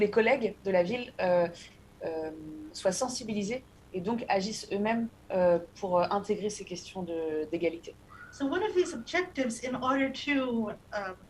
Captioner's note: speaking non-english